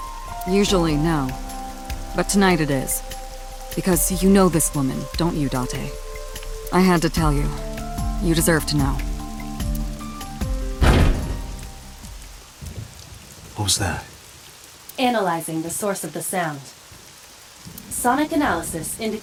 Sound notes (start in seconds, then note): 10.8 thunk